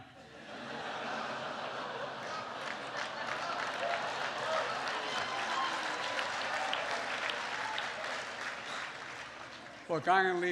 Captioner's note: laughter and applause